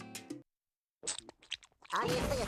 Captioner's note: slurping